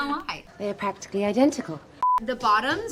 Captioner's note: beep